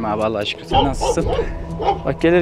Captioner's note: barking sounds